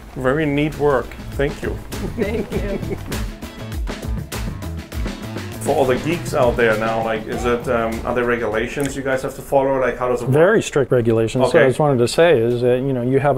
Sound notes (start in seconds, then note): 1.9 chuckling; 3.2 upbeat music